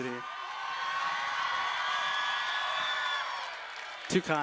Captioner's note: cheering